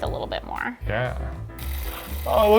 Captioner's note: device clicking